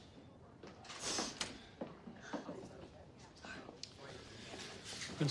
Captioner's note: sniffles